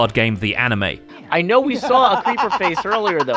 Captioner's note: evil laughter